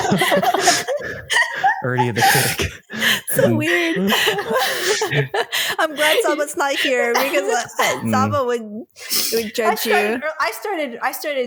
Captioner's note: laughter